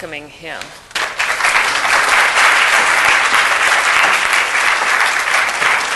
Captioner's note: audience applauding